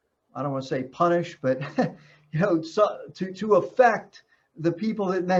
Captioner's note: chuckles